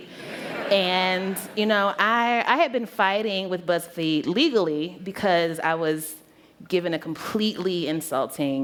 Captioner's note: laughter